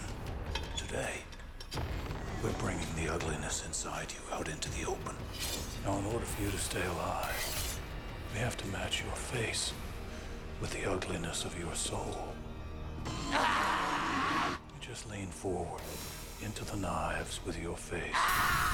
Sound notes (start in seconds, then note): 13.0 screams